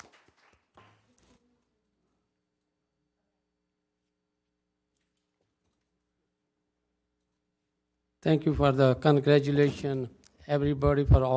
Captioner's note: applause